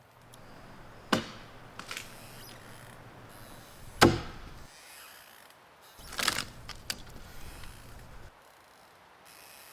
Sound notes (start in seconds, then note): 0.3 wood breaking; 0.3 tool banging